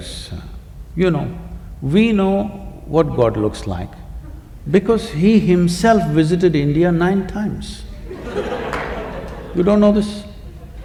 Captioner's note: laughter